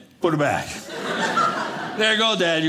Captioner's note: audience laughing